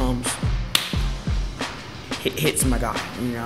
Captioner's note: fingers snapping